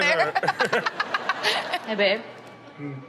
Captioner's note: Chanel laughs